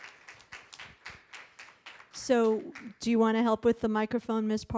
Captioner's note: applause